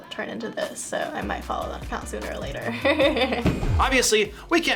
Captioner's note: chuckles